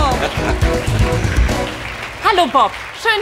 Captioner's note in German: Jingle und tosender Applaus